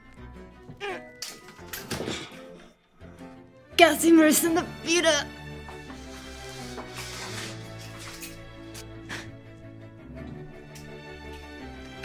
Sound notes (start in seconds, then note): 0.8 woman grunts; 3.7 woman speaking in a foreign language